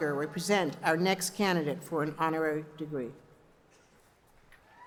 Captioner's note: cheers and applause